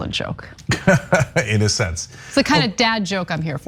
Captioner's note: laugh